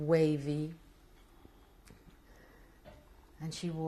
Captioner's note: pauses for 3 seconds